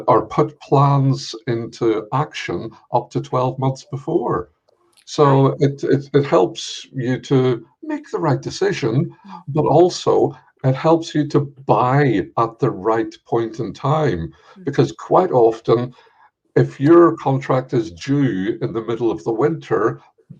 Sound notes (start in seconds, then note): none